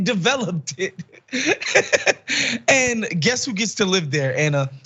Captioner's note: laugh